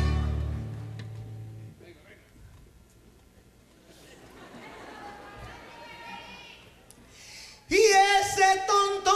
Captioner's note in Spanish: silencio